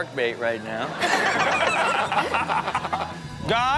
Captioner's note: laugh